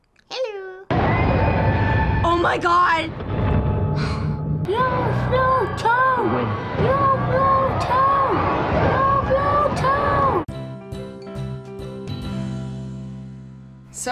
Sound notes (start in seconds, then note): 1.2 dramatic music; 4.0 sighs; 10.5 playful intro